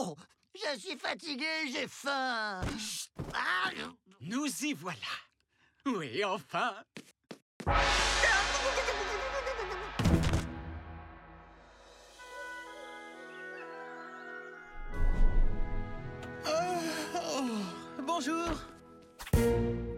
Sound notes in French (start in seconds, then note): 7.3 son du gong; 12.3 des oiseaux chantent; 16.4 il bâille